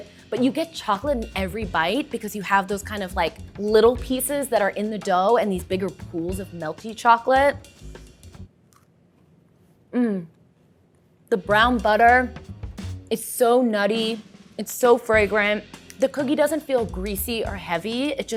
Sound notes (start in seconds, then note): none